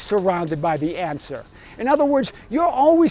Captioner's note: hammering